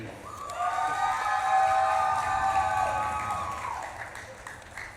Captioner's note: audience claps and cheers